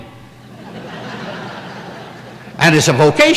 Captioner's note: laughter